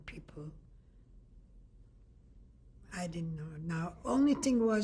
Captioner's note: pauses for 3 seconds